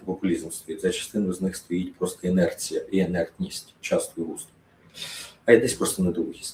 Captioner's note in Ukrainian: сопіння